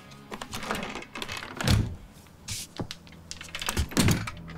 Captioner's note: saloon doors creak